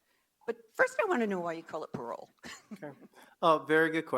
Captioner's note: chuckles